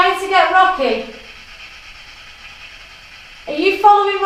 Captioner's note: white noise